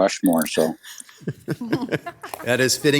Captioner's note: council members laughing